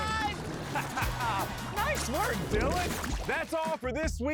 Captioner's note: laughs